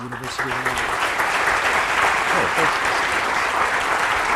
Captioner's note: applause